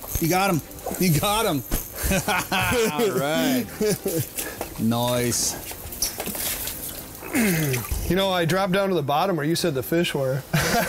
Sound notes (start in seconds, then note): 2.0 laughs; 7.2 grunts